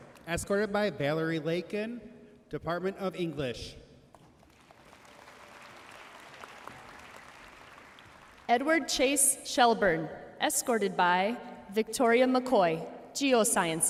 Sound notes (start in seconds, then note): 4.4 audience cheering and applauding